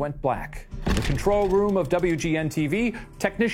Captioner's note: slide projector clicks